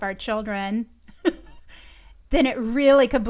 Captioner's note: chuckles